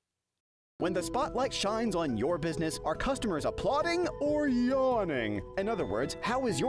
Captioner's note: voiceover